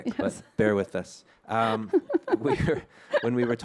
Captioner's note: both chuckle